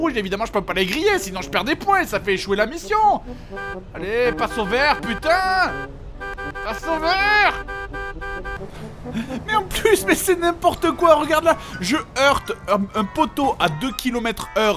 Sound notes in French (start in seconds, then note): 5.7 klaxon